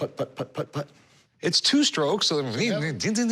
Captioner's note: mimics chopping sounds